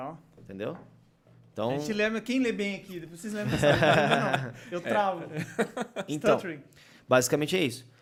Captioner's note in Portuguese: risos